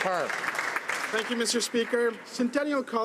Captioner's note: some Applause